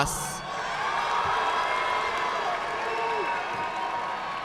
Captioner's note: audience clapping